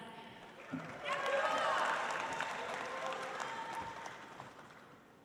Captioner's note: audience applauds